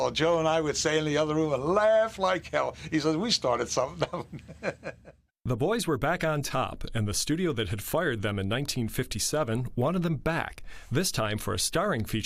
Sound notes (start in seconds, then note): 3.8 laughing